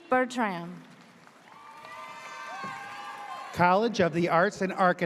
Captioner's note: audience cheers